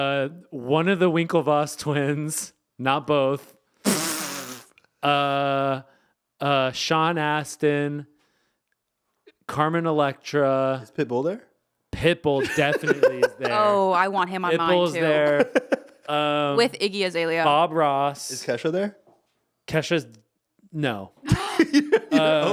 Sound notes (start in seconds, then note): 3.3 laughing; 12.3 laughing; 21.2 laughing